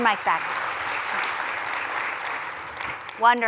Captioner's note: applause